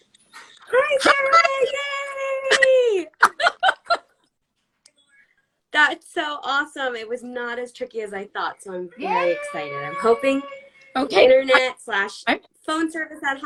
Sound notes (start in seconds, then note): 2.3 laughs